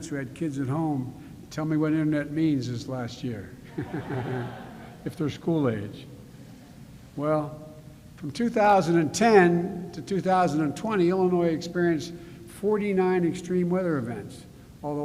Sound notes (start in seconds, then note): 3.6 laughter